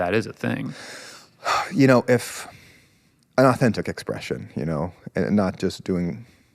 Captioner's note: exhales